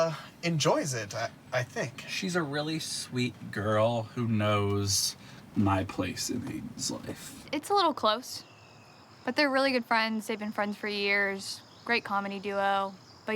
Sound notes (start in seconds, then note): 0.5 sighs